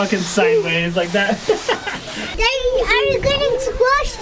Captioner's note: chuckles